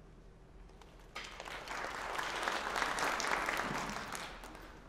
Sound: applause

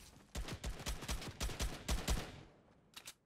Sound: gunshots

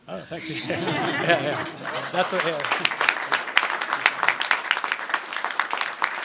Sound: laughter and applause

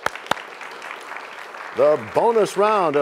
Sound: applause

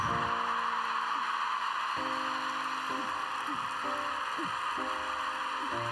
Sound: audience cheering, applauding

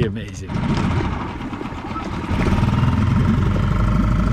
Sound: engine revving

